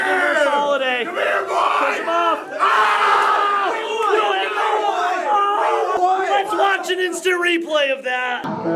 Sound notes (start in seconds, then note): 2.1 yelling